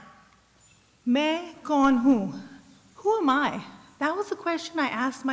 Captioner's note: non-english speech